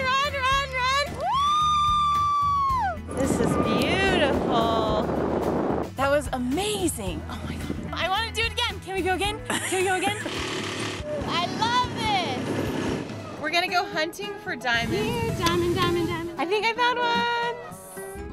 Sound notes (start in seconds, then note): 9.4 laughs; 10.0 vroom